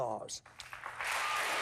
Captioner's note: applause